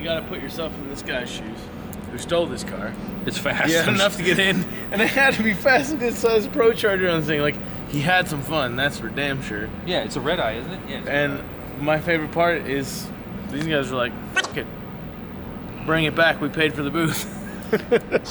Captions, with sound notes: - You gotta put yourself in this guy's shoes, who stole this car-- - It's fast. - He had enough to get in, and they had to be fast 'cause look at the ProCharger on this thing. Like he had some fun, that's for damn sure. - Yeah, it's a Redeye, isn't it? - Yes. - And my favorite part is these guys were like (beep) it, bring it back we paid for the booth (laughing).